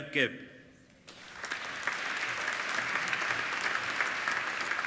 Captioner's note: applauding